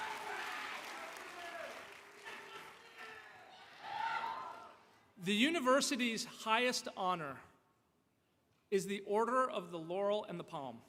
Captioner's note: applause